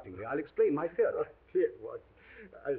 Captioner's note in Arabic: يضحك